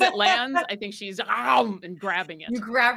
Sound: Neb growls

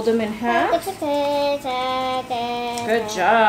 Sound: vocalizing

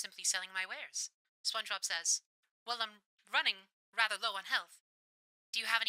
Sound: radio Filter

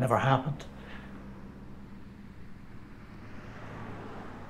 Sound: vehicles whooshing

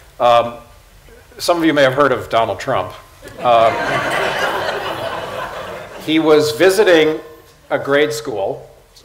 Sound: laughter

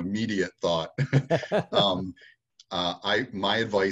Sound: laughing

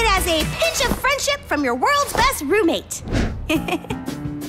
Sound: chuckles

